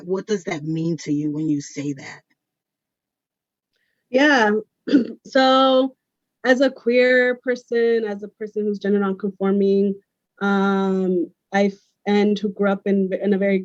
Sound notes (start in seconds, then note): 4.9 clears throat